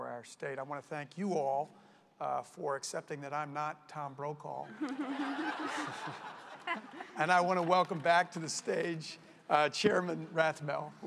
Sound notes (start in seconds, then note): 4.6 laughter